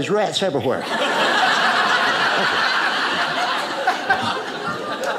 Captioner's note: audience laughing